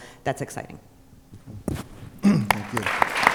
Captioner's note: applause